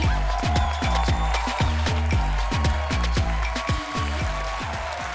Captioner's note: cheering; upbeat music